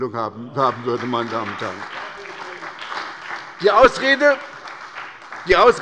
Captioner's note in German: Beifall bei der SPD - Zurufe von Abg. der CDU